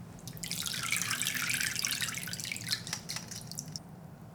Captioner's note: water dripping